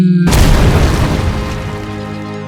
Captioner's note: crash